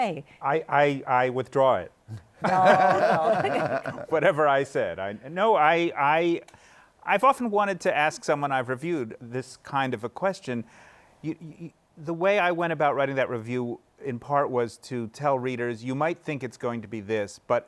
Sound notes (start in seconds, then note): 2.3 laughter